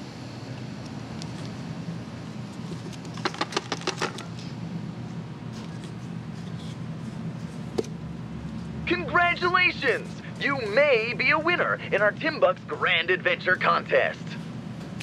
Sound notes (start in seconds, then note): 3.1 rattling noise from cup; 8.7 voice from cup